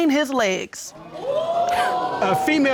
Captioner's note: audience gasps